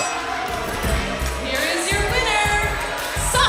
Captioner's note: bell ringing; crowd cheering